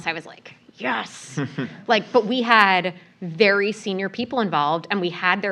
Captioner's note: laugh